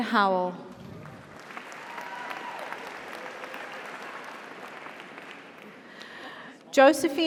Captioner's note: audience applauds; audience cheers